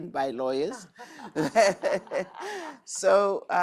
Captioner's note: laughing